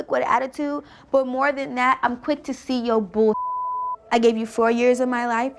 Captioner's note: beep